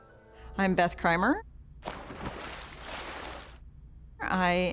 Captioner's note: water splashes